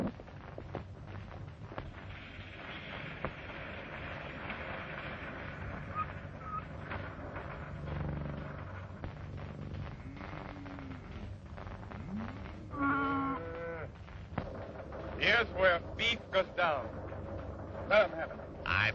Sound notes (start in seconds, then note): 12.6 cows mooing